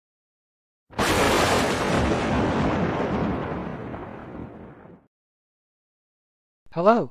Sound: lightning/Thunder

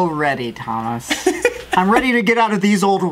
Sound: laughs

